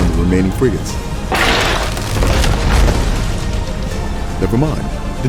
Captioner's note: cannon shot, main mast destroyed